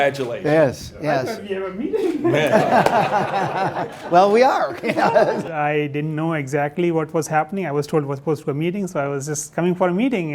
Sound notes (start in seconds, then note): 1.8 laughter